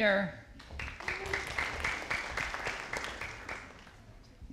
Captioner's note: audience applauding